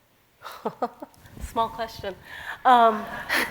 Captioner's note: laughter; laughs